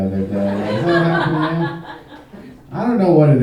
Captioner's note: audience laughing